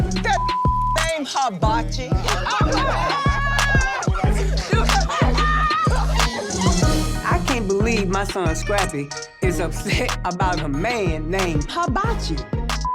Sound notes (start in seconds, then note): 2.1 laughing